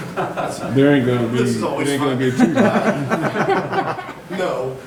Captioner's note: audience laughing